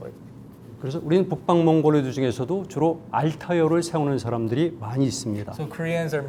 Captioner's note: speaking in Korean